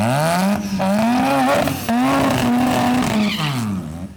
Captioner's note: engine roaring